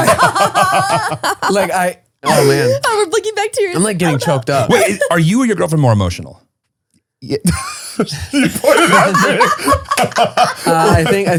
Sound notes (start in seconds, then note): 0.0 all laughing; 7.4 laughs; 10.0 all laughing